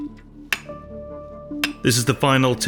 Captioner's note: metal clacking